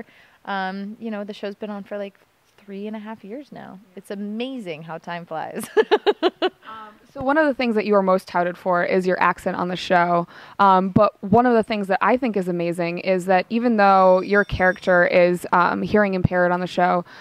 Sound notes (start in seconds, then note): 5.6 laughter